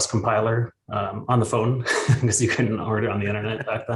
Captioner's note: laughs; chuckles